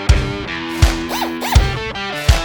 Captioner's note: drill whirring